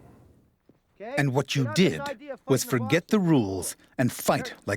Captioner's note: voiceover